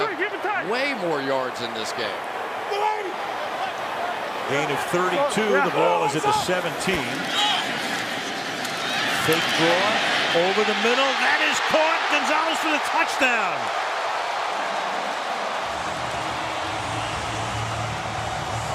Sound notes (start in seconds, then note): 13.9 cheering; 15.3 pa announcement